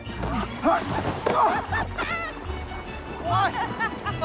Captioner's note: laughing